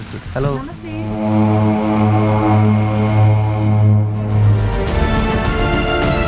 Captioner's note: aircraft sound